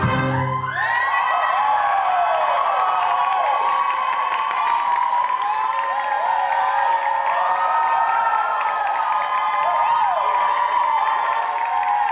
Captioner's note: audience cheers